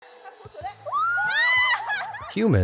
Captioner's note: screams, laughs